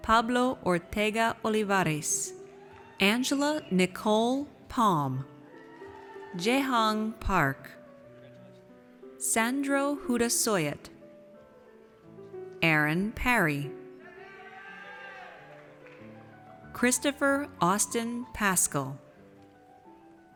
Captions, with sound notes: Pablo Ortega Olivares. Angela Nicole Palm. Jaehong Park. Sandro Hutasoit. Aaron Parry. (audience cheers) Christopher Austin Paschal.